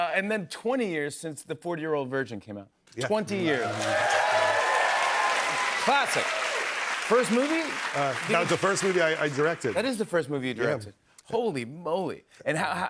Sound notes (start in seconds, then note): 3.4 cheers and applause